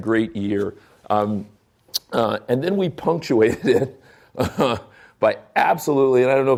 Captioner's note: chuckling